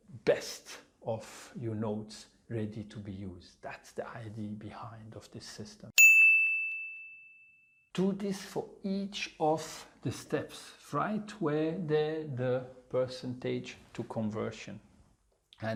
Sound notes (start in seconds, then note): 6.0 pinging sound